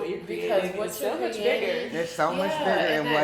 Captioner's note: speaking faintly